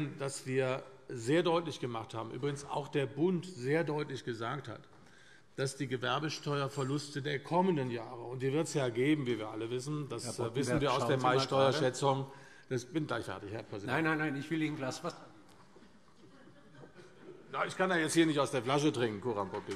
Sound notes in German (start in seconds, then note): 15.8 Heiterkeit